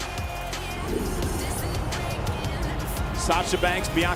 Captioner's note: graphic whooshes